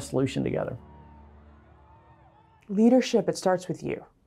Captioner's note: crowd cheering